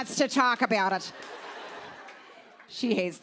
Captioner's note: laughter